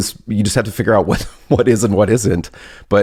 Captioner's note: laughs